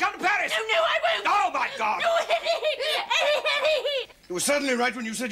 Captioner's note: wails